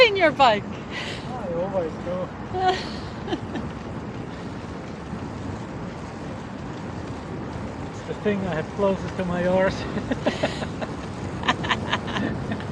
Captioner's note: laughter